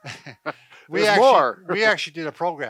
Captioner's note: both laughing